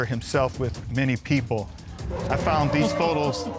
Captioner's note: audience chuckles